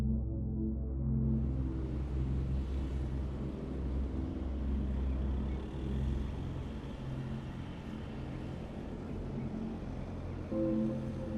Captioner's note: faint sound of van driving in distance and bird song